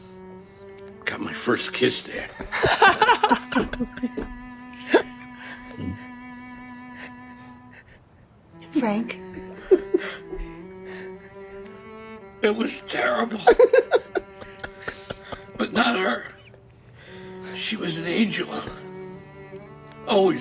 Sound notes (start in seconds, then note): 3.0 all laughing loudly; 5.7 Frank choking up softly; 13.3 Rob laugh softly